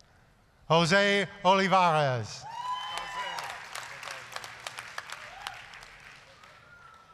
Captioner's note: applause, cheering